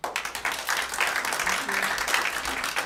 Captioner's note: applause